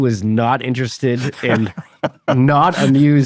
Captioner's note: laughing